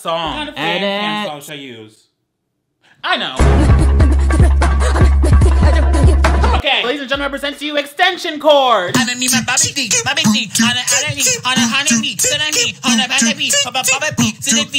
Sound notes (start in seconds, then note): 3.4 upbeat music; 8.6 vocalizing